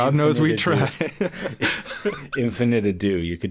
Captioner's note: both laugh